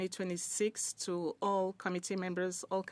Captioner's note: speaking in French